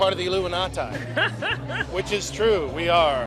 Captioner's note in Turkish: Gülüşmeler